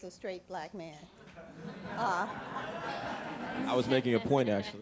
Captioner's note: audience laughing